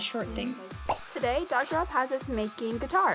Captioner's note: video popping